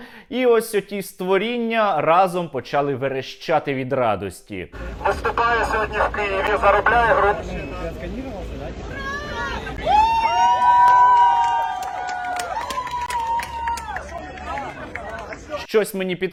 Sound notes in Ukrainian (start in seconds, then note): 4.8 перестає працювати мегафон